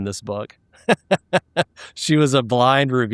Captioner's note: laughing